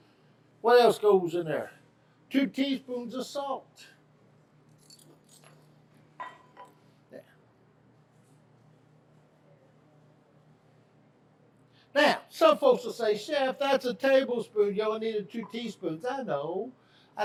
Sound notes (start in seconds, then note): 4.8 spoons clinking; 6.4 can clinking